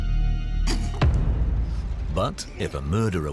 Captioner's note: chokes